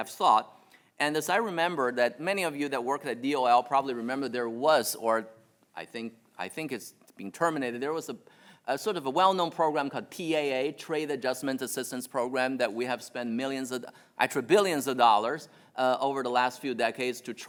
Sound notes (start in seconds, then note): none